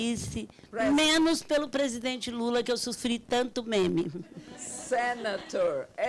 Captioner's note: speaking Portuguese